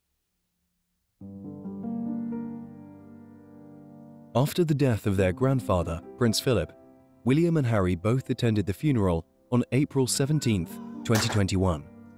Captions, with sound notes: (bright music) - [Voiceover] After the death of their grandfather, Prince Philip, William and Harry both attended the funeral on April 17th, 2021.